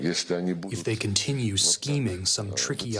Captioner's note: through translator